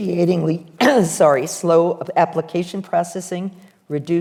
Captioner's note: coughs